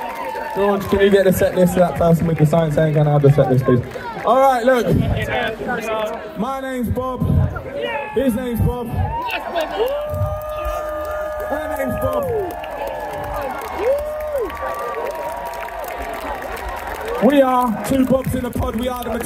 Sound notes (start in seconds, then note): 10.7 cheering